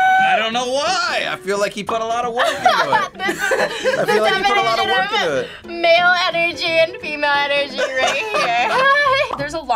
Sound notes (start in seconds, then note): 2.4 laughs; 7.7 both laugh